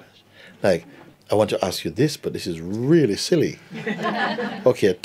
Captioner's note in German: Lachen